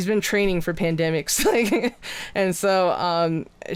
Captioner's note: laughs